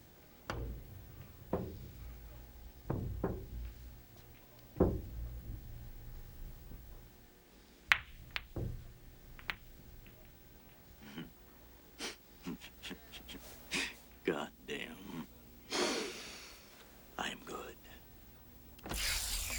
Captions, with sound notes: [Chuckles] Goddamn. I'm good.